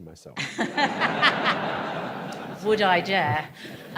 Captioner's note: audience laughs